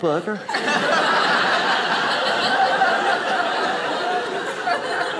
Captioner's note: audience laughing